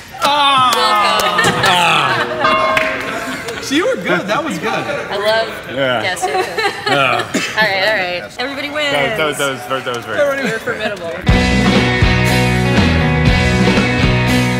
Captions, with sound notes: - Wilco. (Groans) (Bell rings) - [Voice-over] See, you were good. That was good. - I love gas stations. All right, all right, everybody wins. - That was very good. - You're formidable.